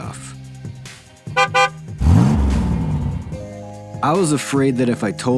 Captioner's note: van horn honking and engine revving